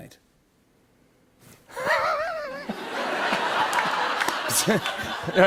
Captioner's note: laughter